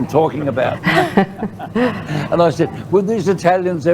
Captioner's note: laughter